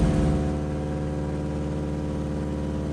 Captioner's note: plane engine buzzing